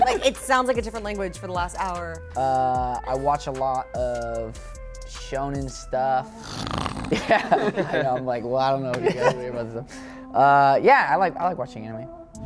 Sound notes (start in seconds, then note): 6.4 snoring